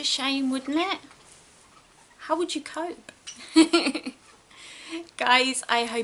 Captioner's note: giggles